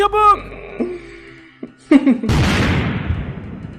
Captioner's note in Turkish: Gülme sesi